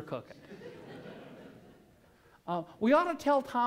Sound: laughter

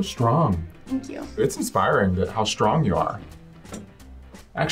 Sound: none

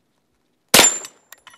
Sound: bang

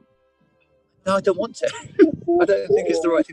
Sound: laughing

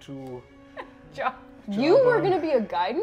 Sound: laughing

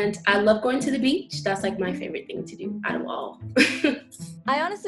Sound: giggles

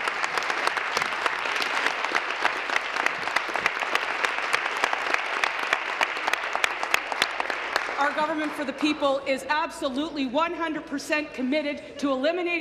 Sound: applause

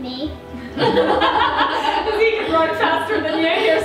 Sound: laughs

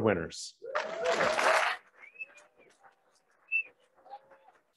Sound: applauding

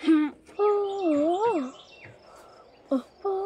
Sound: humming

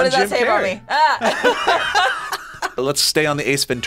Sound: group laughs

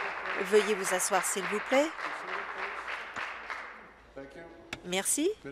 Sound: applause

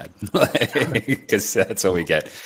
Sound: laughing

